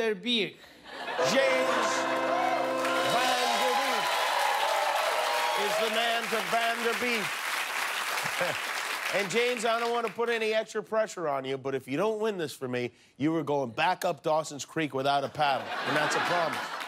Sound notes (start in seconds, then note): 11.5 applause